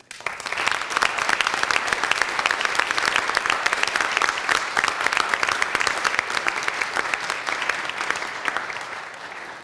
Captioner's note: applause